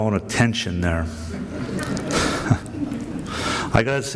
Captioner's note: laughter